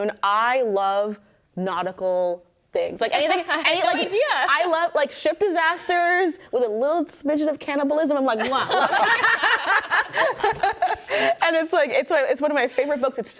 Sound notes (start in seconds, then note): 3.2 hosts laughing